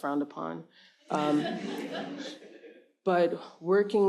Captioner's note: audience laughs